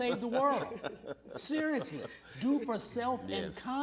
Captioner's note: laughter